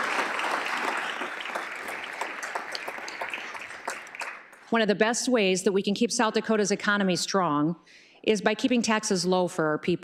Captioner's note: applause